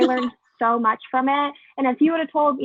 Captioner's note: laugh